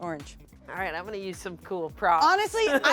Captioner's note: laughs